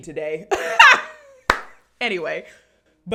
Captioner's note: laughs